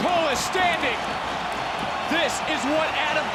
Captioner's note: crowd cheers